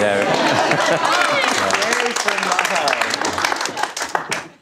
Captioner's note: audience applause